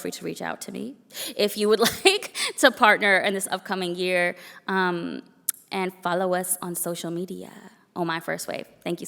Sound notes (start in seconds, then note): 6.7 foreign language spoken